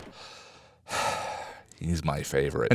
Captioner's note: sigh